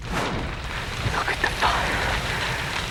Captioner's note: whispering